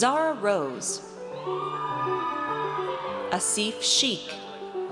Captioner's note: audience cheers